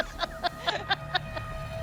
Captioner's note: laughs